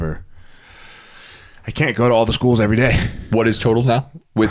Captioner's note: inhales